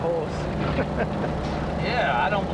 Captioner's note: Joe chuckling